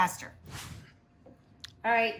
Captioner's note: air whooshing